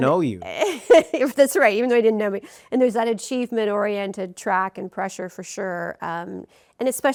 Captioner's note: laughs